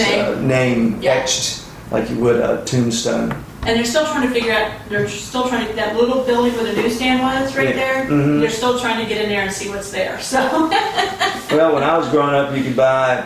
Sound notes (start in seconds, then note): 10.3 laughs